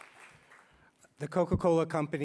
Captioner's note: applause